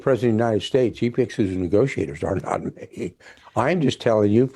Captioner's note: laughs